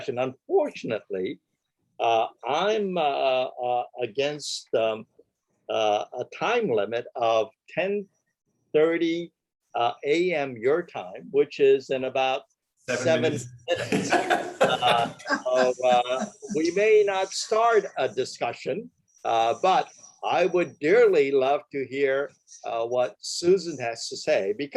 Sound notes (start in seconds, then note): 13.7 laughter